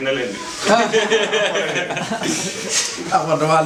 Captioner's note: laugh